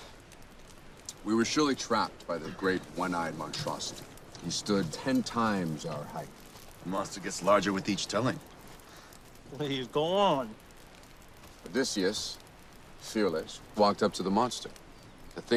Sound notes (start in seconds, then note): 2.3 sighs